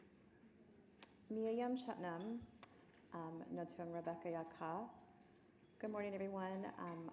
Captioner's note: speaking foreign language